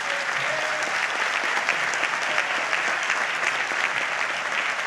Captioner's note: audience applauds